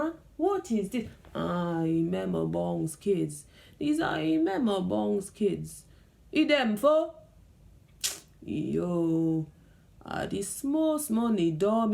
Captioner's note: kisses teeth